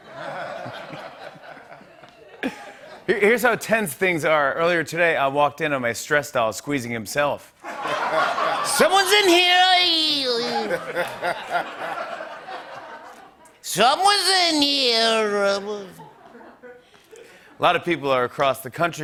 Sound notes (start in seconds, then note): 0.0 laughter; 10.0 laughter